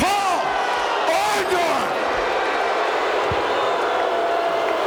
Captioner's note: audience booing